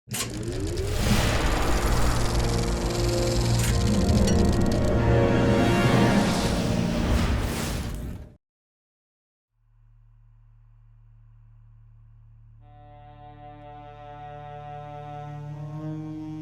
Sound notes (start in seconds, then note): 0.9 air whooshing; 2.0 film reeling clicking; 12.6 somber music